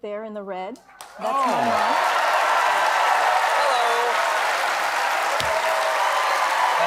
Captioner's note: cheers and applause